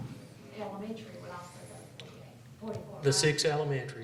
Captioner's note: speaking faintly